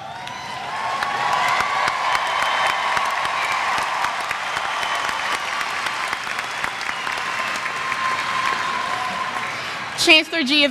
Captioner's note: applause